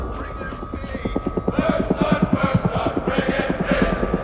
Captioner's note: helicopter thrumming